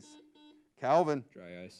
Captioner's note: buzzer beeps